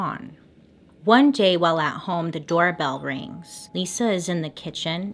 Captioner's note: faint doorbell chime